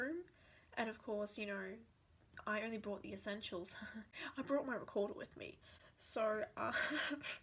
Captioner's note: more needless laughter